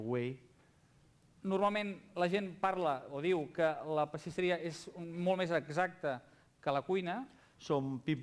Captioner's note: non-english speech